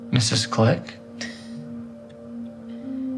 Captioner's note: chuckles